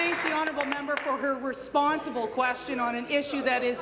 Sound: applause

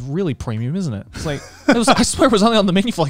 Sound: laughing

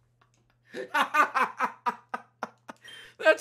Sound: laughs

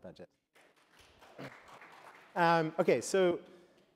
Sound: applause

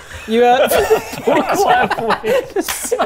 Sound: mean giggles

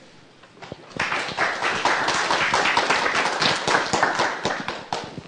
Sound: applause

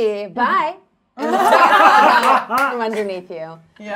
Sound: all laughing

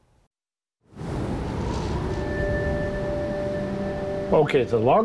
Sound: wind whooshing

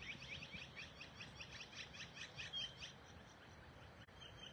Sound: birds chirping

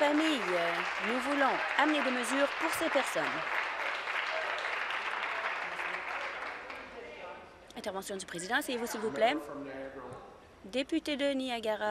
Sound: applause

